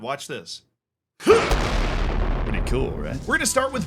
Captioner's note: grunts